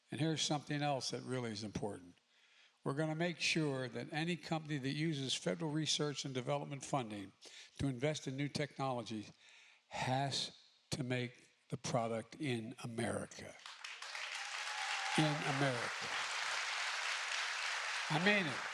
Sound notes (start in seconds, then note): 13.5 applause